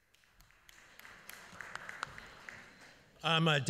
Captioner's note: applause